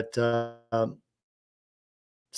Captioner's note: audio cuts out